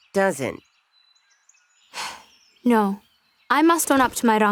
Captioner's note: sighs